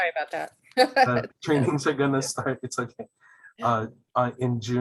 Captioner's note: laughing